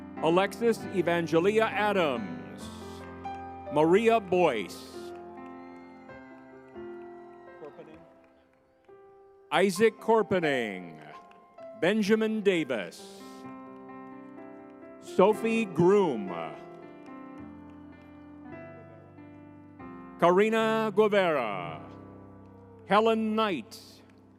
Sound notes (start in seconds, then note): 0.0 spirited music; 6.0 crowd cheering